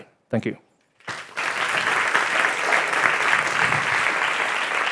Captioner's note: audience applauding